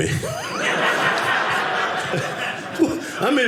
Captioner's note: audience laughing